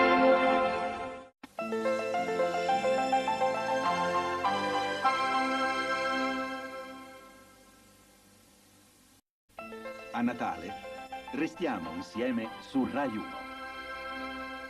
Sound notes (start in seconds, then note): 1.7 analog synthesizer music continuing still; 9.9 man speaking Italian